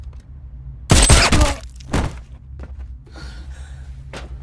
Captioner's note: woman yelping; gunshots; body thuds; breathing loudly